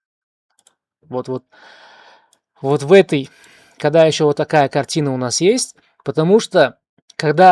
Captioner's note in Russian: тяжело вздыхает